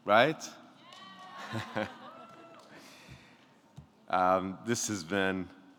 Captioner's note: people cheering